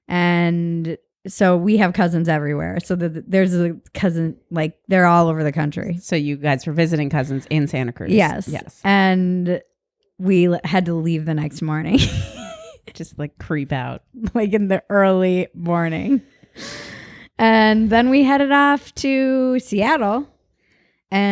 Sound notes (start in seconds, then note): 12.0 laughs